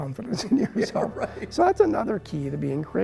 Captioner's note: laughing